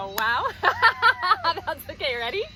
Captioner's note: both laughing